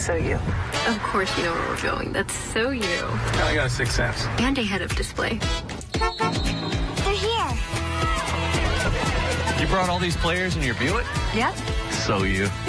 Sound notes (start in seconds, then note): 5.9 enclave honks